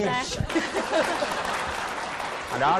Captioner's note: laughing; applause